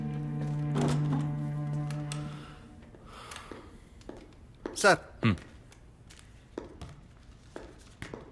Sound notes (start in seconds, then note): 3.1 Sighs